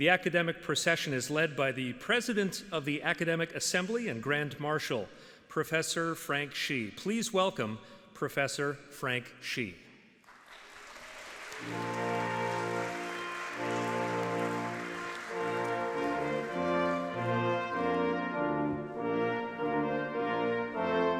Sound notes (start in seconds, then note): 13.3 audience applauding; 18.3 classical music